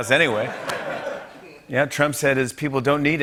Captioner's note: laughter